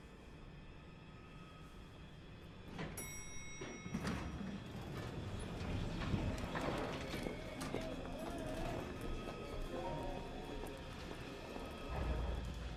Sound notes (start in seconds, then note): 0.3 tense suspenseful music; 2.8 elevator door dinging; 8.0 tense suspenseful music